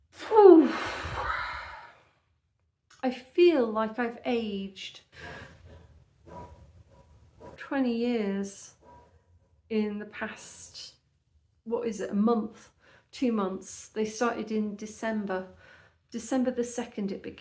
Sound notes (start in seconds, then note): 0.5 deep sigh; 5.3 clanking sounds